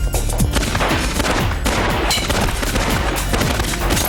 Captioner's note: guns fire